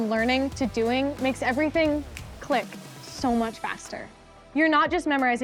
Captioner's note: snaps